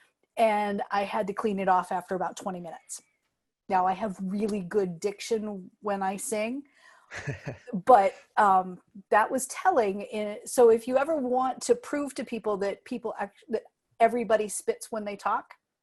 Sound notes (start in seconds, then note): 7.1 laughter